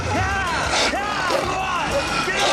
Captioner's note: wolf barking; shouting